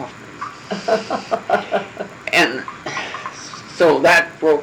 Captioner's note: laugh